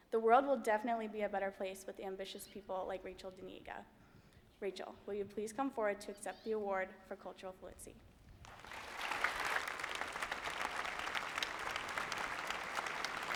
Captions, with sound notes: The world will definitely be a better place with ambitious people like Rachel Diniega. Me Rachel, will you please come forward to accept the Award for Cultural Fluency? [APPLAUSE]